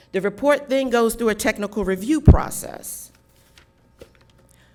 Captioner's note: none